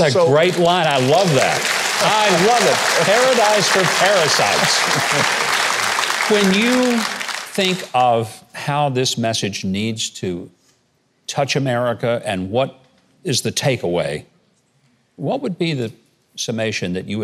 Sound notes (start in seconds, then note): 0.3 laughs; 2.5 audience applauding